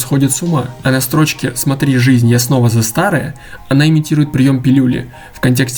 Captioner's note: say in Russian